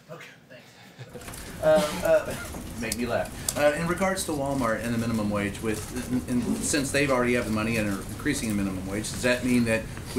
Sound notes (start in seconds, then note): 1.6 laughter